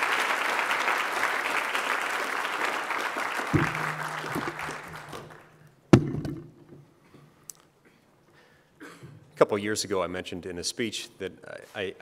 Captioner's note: applause